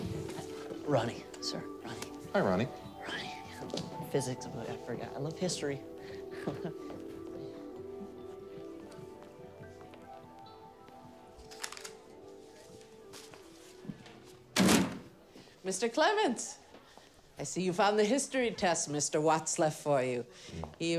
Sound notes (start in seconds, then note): 6.2 laughs nervously; 14.5 papers thud